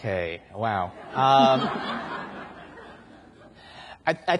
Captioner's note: audience laughs